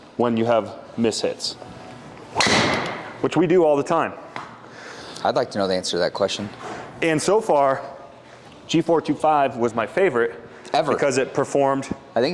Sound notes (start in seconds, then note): 2.3 golf club whacks